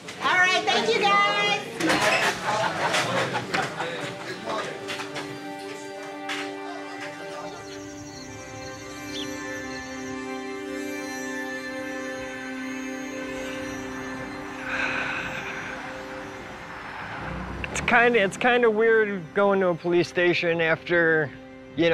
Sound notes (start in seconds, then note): 3.5 participants chattering; 9.1 bird chirps; 14.6 sighs